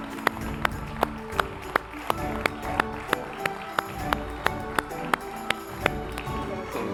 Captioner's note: applause; upbeat music